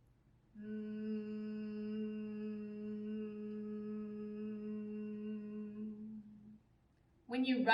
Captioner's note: humming